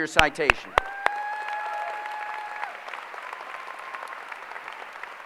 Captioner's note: applause